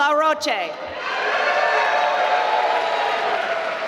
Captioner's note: applause